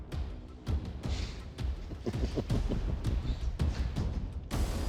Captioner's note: chuckling